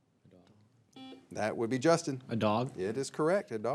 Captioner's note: signal beeps